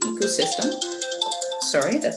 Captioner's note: phone rings